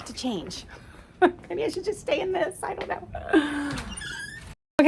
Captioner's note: chuckles